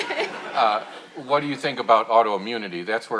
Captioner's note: audience laughing